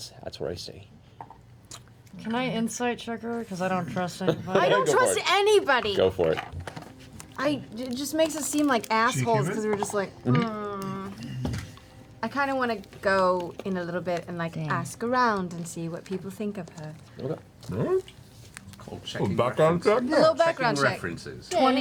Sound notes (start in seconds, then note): 10.2 grumbles